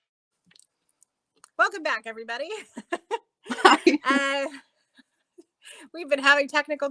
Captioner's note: laughing